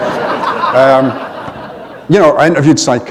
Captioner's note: laughter